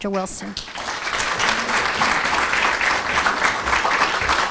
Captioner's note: applause